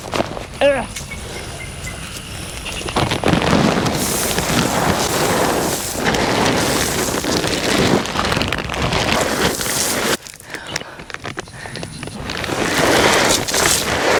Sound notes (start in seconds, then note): 0.8 heavy breathing; 5.2 sweeping sounds of broadcasting corn